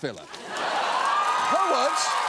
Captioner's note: audience laughs, applauds